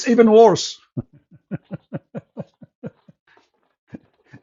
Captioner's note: Ketawa